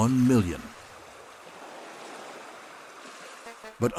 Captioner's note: waves splashing